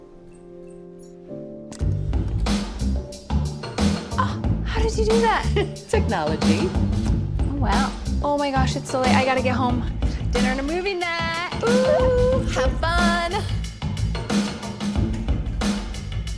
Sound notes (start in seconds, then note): 0.3 upbeat music; 5.2 laughs; 16.1 upbeat music